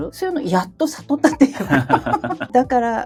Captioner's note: laughs